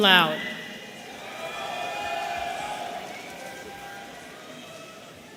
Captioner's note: audience cheering